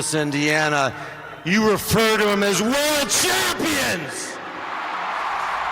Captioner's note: cheerin